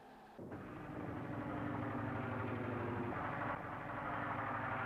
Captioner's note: airplanes flying